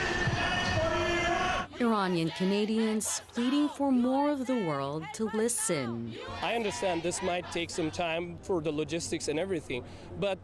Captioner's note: shouting